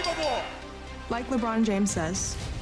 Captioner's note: bell rings